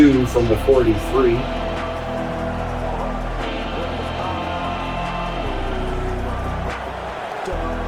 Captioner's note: crowd Noises